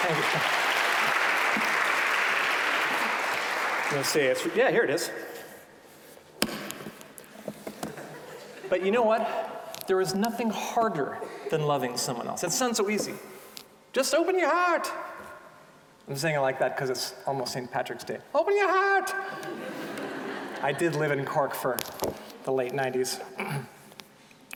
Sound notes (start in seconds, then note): 0.0 applause; 13.9 with Irish accent; 18.3 with Irish accent; 19.2 audience laughing